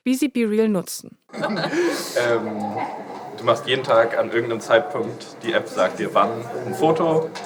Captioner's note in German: lachen